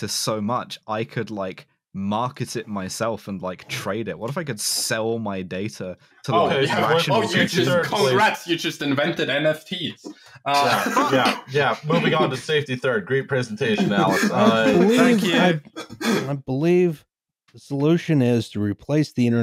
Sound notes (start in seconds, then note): 6.2 overlapping chatter; 10.4 laughter